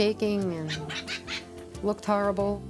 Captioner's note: Rupert squawks